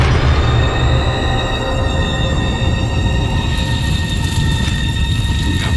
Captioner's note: horrible, high-pitched scream